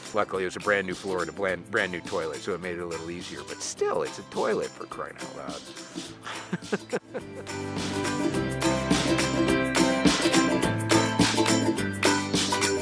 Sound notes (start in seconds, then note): 6.2 laughing; 7.5 upbeat music